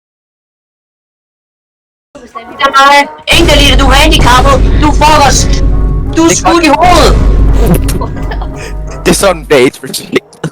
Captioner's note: roasts in danish